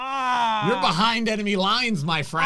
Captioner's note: groans